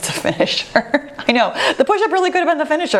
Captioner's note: laughs